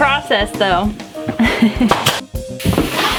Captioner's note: giggles